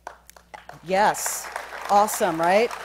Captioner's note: applause